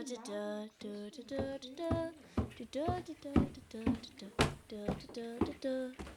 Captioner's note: footsteps